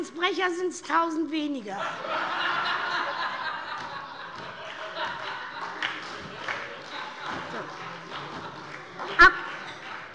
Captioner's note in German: Heiterkeit und Beifall bei der SPD